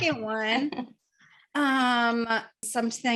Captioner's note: laughs